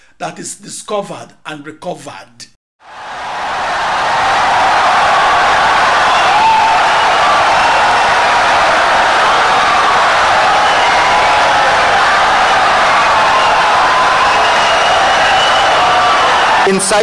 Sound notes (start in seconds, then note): 2.8 wild applause and cheering for 17 seconds